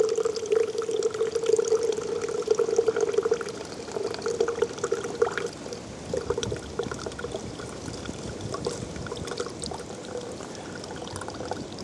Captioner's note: water pouring